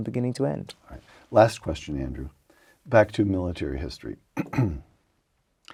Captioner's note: cough